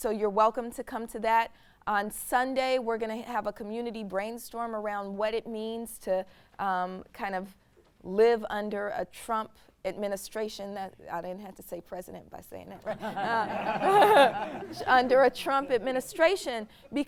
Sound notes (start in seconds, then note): 12.8 all laughing